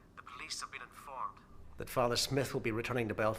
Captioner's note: none